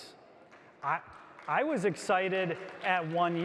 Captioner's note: audience applauds